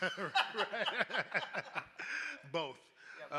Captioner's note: laughs